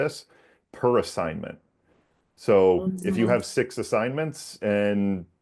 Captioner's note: Zoom attendee murmurs agreement in background